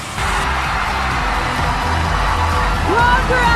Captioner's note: crowd cheering